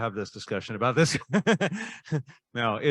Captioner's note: laughing